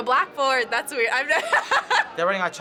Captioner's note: laughs